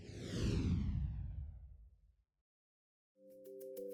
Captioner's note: logo swoosh